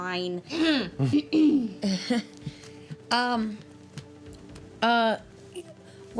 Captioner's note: chuckles; clearing throat